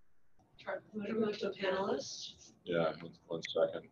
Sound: speaks quietly

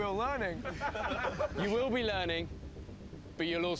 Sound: laughter

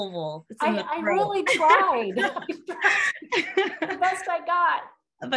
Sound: laughter

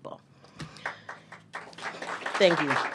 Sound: applause

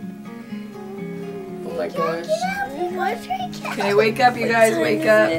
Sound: whispering

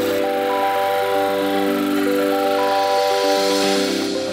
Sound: machine whirring

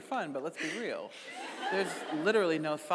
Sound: audience laughing

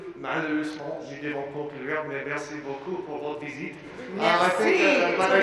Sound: speaking in French language

